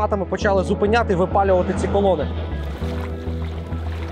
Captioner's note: russian